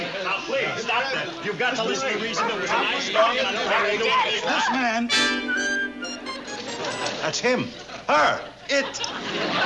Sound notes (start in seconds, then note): 1.8 dog barking